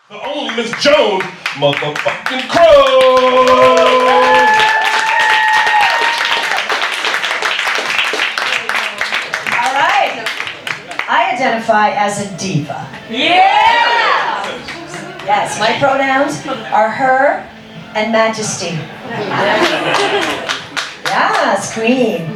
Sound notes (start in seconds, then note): 5.1 applause; 13.0 crowd